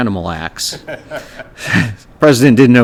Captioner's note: laughter